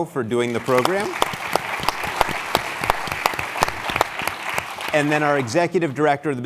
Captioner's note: applause